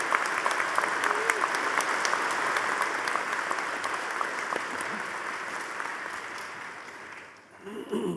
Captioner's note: audience applauding